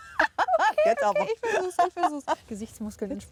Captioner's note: laughs